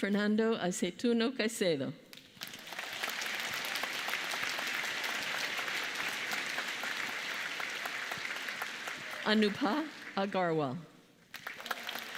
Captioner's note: applause